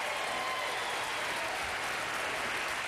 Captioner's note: applause